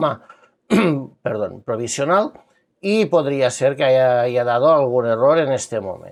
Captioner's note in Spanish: carraspeo